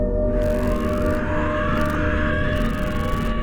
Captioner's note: scream with rising intensity